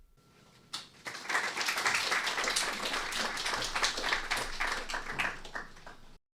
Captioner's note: applause